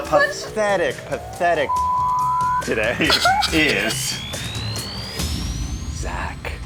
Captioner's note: beeps